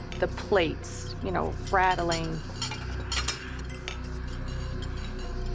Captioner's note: plates rattling